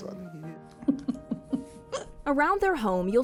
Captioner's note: chuckling